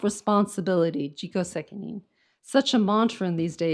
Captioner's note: speaks in foreign language